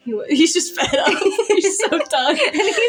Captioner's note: laugh